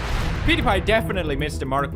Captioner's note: woosh